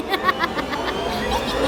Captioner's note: laughter; ̵ ̷l̶a̵u̸g̷h̸t̸e̵r̵?̶ ̶; ̸ ̸m̶a̷n̷i̴a̶c̸a̴l̸ ̸l̵a̵u̷g̴h̴t̶e̴r̵ ̴